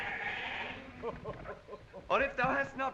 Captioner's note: Corin chuckles